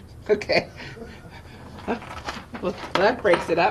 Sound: laughing

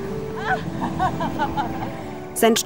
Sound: laughs

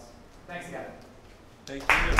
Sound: applause

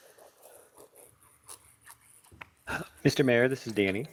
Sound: pen scratching

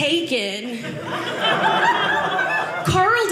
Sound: audience laughing

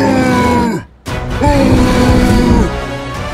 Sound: roaring

